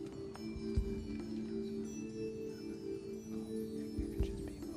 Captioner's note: whispering